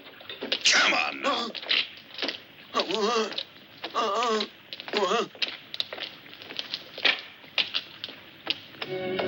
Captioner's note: grunting